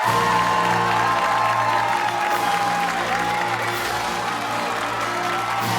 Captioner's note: cheers and applause